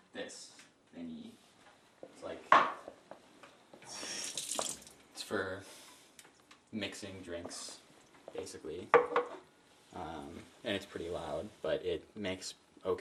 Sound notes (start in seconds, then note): 4.1 watter spatters in sink